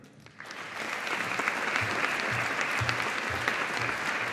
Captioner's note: audience applauding